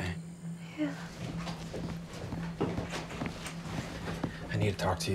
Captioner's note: footsteps approaching